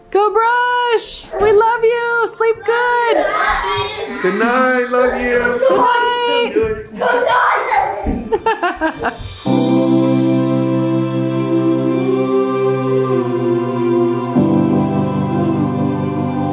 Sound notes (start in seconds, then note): 8.2 laughs; 8.5 christmas music